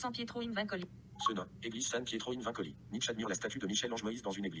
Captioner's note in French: Voix de synthèse